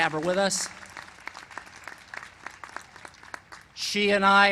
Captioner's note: applause